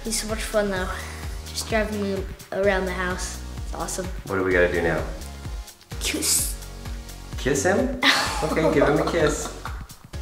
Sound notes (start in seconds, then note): 6.0 sounds like kiss; 8.0 laughs